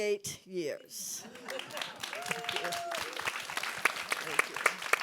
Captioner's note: audience applauds